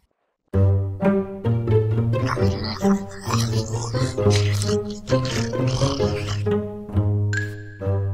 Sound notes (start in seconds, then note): 2.2 eating